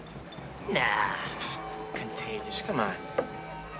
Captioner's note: scoffs